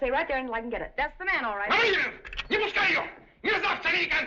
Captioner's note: shouting In Russian